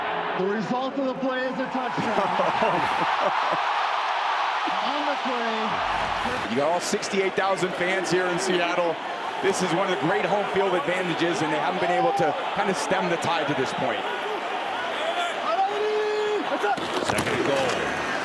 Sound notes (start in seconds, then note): 2.0 both chuckling in astonishment